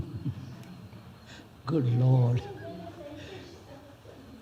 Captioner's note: laughs